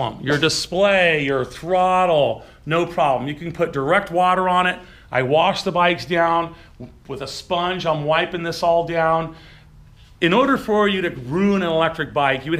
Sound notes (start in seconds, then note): none